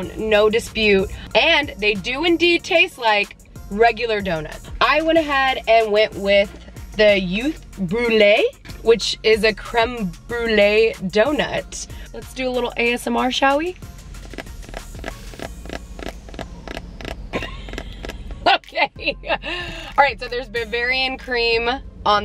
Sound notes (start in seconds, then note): 14.2 fingernails tapping; 17.3 chuckles